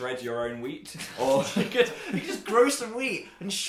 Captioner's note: both Giggle